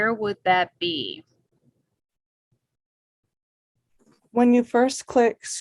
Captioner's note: awkward silence